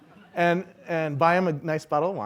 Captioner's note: laughing